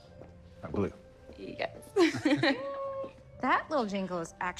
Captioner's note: chuckling